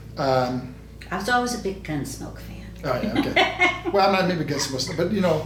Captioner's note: laughs